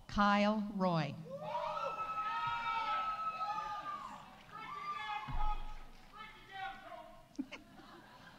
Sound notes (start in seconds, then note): 1.3 audience cheering; 2.7 audience applauding